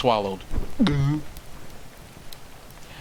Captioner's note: large dramatic gulp